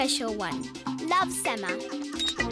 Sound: beeping; giggling

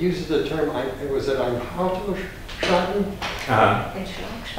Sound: foreign language

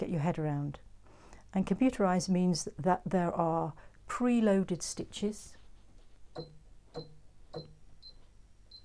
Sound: clicks and beeps

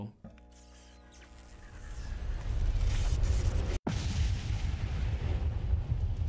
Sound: electronic whirring; explosion

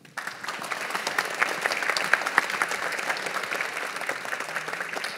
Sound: audience applauding

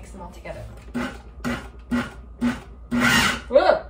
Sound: blender buzzing

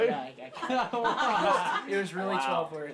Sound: laughter

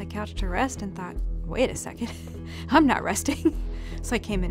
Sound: laughs

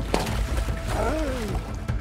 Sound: grunting

